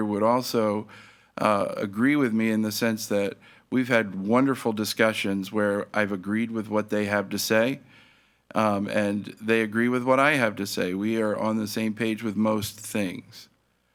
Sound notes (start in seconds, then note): none